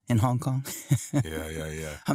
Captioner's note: laughs